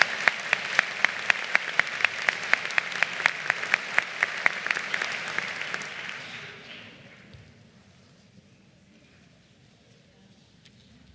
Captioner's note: applause